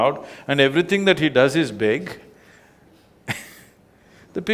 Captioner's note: laughs